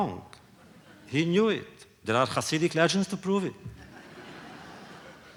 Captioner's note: laughter